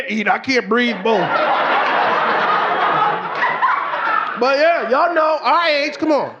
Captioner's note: audience laughing